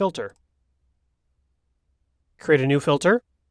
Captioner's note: mouse clicks